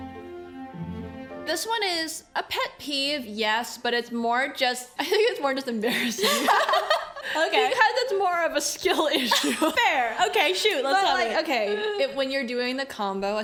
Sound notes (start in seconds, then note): 9.1 laughs